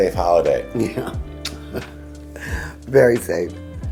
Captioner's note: chuckles